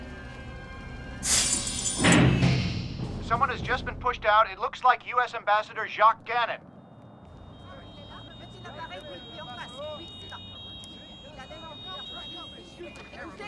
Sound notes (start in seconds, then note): 10.1 sirens blaring